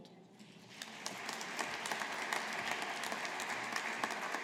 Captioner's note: audience applauding